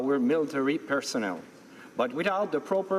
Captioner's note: speaking French